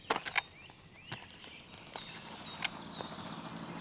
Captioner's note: dirigible engine humming